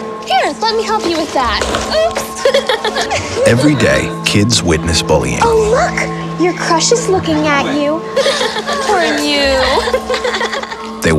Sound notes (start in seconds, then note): 2.4 laughter